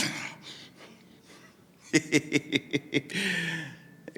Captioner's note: laughing